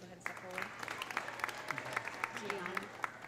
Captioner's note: audience applauding; audience cheering